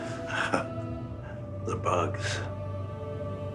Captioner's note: chuckles